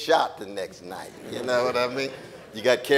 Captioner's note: audience laughing